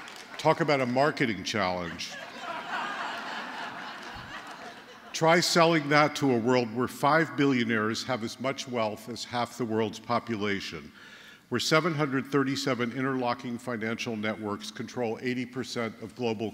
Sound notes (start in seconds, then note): 1.8 laughter